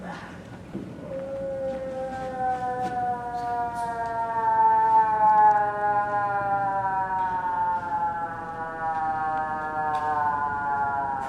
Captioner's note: moose call